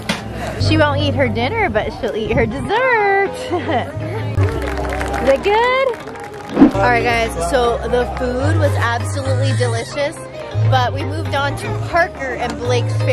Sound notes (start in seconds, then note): 4.3 people clapping